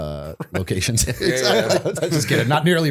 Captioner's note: laughter